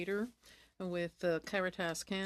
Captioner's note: speaking French